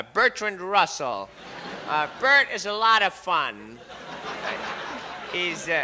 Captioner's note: crowd laughs